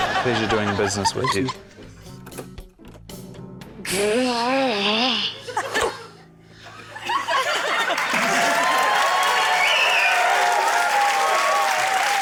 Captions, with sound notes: - Pleasure doing business with you. - (GROWLS IN EXASPERATION) (LAUGHTER) (CHEERING, APPLAUSE)